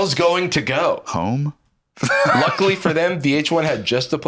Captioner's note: laughs